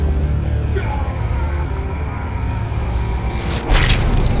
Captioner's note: distorted laser eye Boris screams